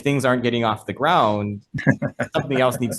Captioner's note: laughs